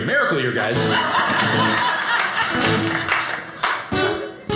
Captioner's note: audience laughing